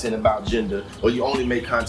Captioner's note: birds Chirping